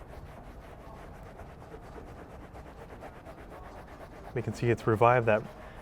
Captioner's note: light rubbing